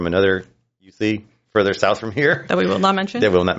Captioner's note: chuckles